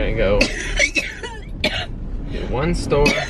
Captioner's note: coughing